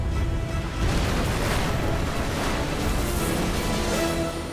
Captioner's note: explosion